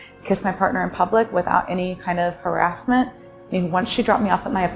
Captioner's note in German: none